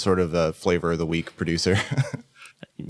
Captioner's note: laughs